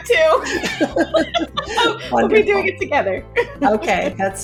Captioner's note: laughing